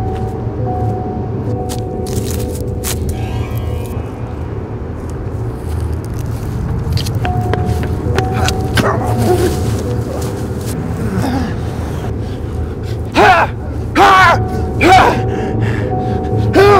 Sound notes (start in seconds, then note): 7.0 running footsteps approach; 12.2 russell yells